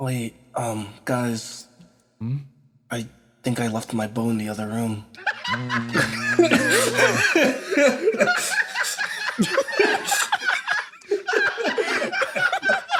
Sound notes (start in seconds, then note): 5.1 laughing